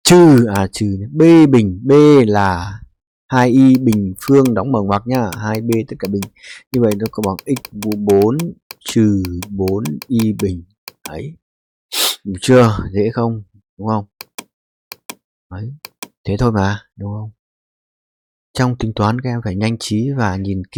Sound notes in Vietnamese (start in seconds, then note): 11.9 khịt mũi